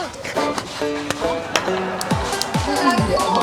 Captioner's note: laughing at others